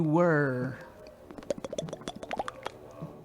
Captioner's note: popping sound